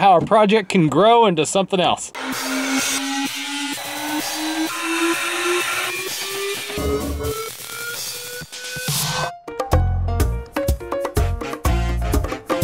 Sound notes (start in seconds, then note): 2.1 machinery grinds; 2.6 intense techno; 10.2 upbeat salsa music